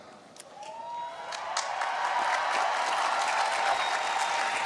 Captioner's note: cheering